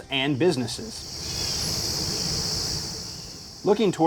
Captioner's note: cicadas chirping